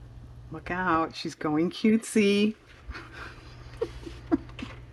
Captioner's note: laughs